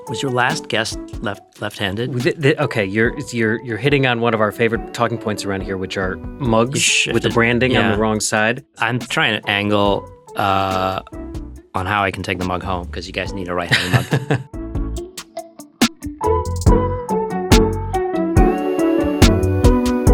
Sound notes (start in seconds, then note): 13.6 laughs; 15.2 upbeat music